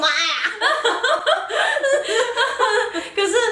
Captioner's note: laughter